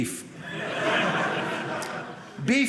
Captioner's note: audience laughing